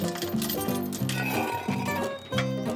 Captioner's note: metal scraping